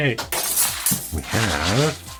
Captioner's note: glass breaking